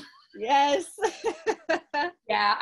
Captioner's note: laughs